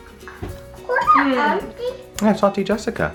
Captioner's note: child mumbling